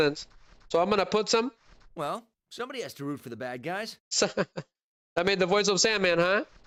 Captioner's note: laughter